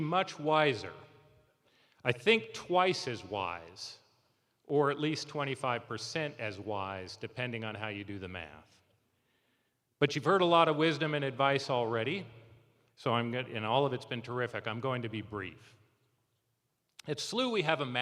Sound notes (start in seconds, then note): none